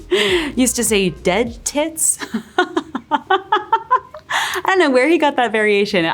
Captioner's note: laughing